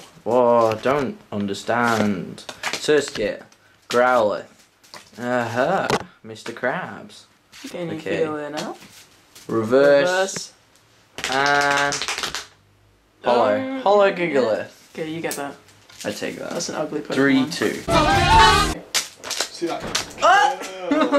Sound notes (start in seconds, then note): 11.2 slapping knees; 17.8 chaotic music